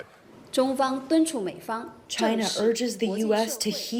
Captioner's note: through translator